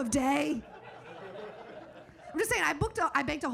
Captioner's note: audience laughing